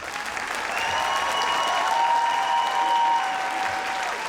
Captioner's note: audience applauds